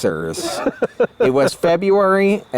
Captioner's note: laughs